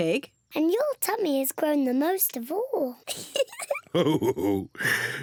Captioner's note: laughs